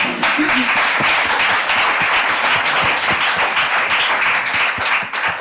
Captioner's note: audience applauding